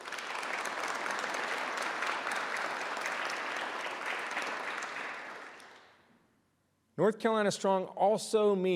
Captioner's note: applause